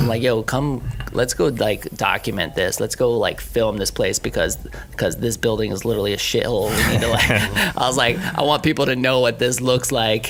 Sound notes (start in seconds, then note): 6.6 laughing